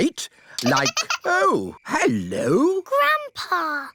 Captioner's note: giggling